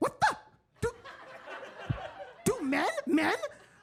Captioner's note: audience laughing